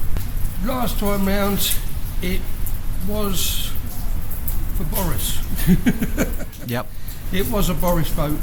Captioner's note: laughs